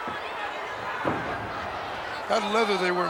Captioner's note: body thuds